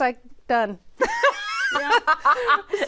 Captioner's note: laughs